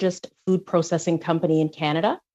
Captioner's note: speaking French